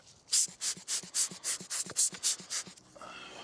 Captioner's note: wind hissing